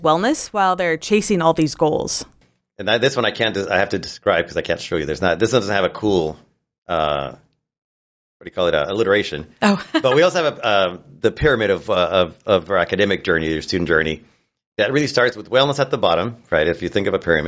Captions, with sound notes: -they're chasing all these goals? -And this one I have to describe because I can't show you. This doesn't have a cool, -what do you call it? Alliteration. -Oh. [laughs] But we also have the pyramid of our academic journey or student journey that really starts with wellness at the bottom, right? If you think of a pyramid,